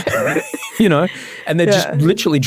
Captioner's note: laughing